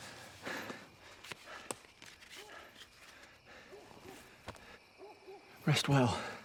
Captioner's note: Thor panting; dog barking